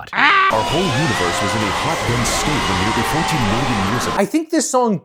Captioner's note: screams